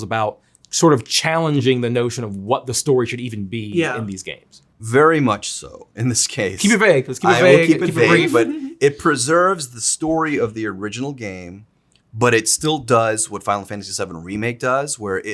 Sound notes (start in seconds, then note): 7.3 Zack laughs